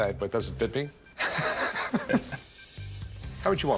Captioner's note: both laughing